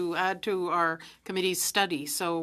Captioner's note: speaking French